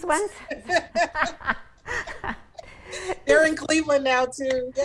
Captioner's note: both laughing